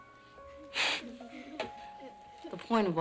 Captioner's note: sniffles